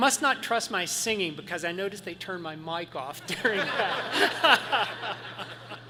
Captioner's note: laughs